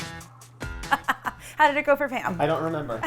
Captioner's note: upbeat guitar music; laughs